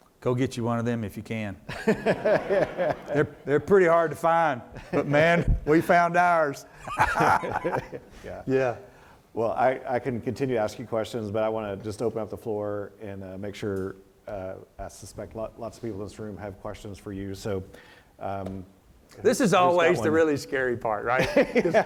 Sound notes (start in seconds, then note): 1.7 laughs; 1.8 audience laughs; 6.8 both laugh